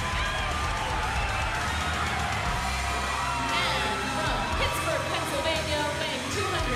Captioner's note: crowd cheering